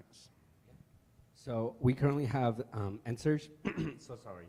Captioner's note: clears throat